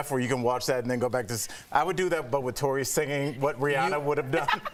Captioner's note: laughter